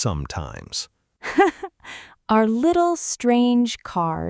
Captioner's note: laughs